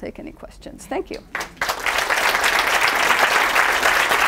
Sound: applauding

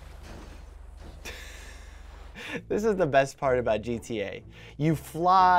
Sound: laughs

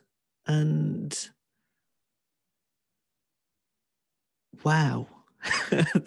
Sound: laughs

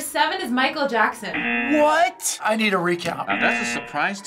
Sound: buzzer; buzzer

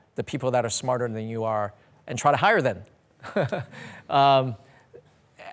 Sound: laughs

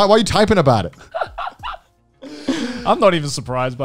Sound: laughing

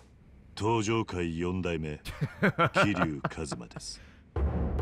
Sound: laughs

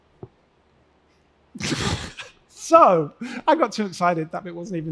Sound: laughs

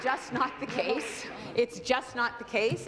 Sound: applause

